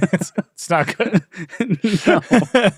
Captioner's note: laughing